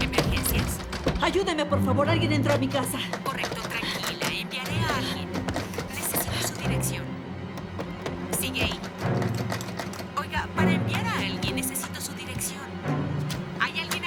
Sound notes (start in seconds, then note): 0.0 beeping; 7.3 door jiggling loudly